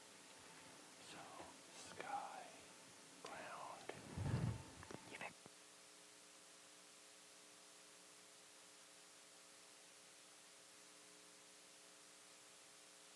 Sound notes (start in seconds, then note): 1.5 whispers